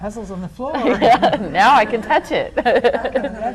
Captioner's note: laughs